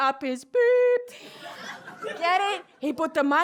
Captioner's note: laughter